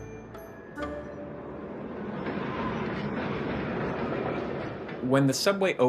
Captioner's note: train rumbling